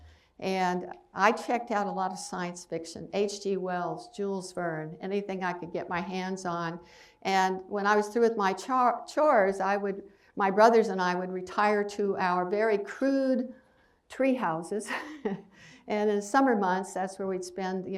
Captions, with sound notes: And I checked out a lot of science fiction. H. G. Wells, Jules Verne. Anything I could get my hands on. And when I was through with my chores, I would my brothers and I would retire to our very crude tree houses. [laughs] And in summer months, that's where we'd spend